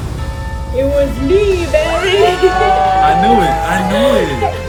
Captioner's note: laughs